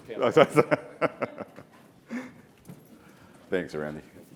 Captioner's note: laughs